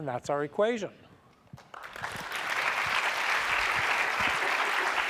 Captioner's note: applause